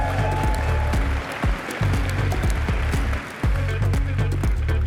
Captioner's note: applause